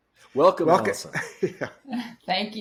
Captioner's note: laughs